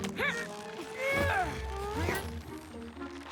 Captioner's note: both grunting; whimsical tune plays